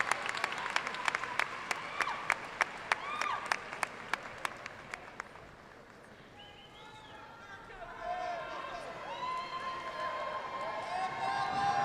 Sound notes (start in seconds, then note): 2.8 audience excitedly cheering; 6.7 audience faintly shouting and applauding